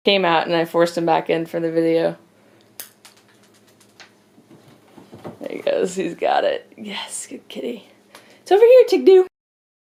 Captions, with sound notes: Came out, and then I forced him back in for the video. (treat clatters) There he goes, he's got it, yes, good kitty. It's over here, Trigg-Do.